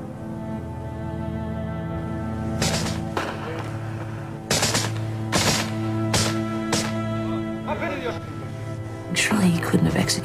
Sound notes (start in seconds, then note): 2.7 gunshot; 4.4 gunfire continues; 7.0 soldier speaking Serbo-Croatian